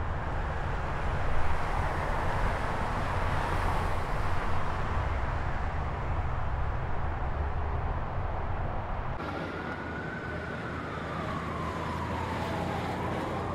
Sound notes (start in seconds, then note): 9.2 siren blaring